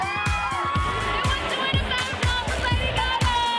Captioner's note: cheering